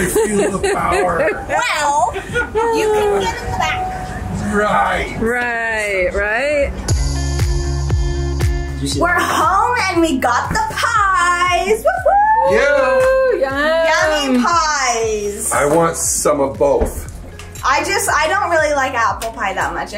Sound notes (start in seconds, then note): 0.0 laughs; 6.8 upbeat music